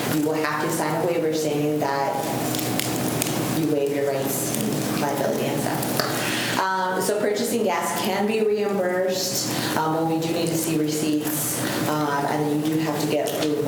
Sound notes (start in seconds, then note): 5.5 faintly speaking